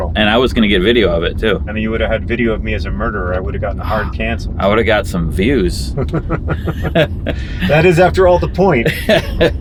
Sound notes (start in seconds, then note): 5.8 laughs; 5.9 John chuckles